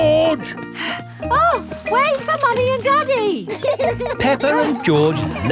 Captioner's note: panting